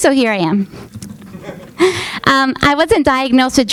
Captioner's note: man laughs